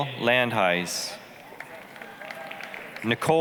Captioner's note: applause, cheering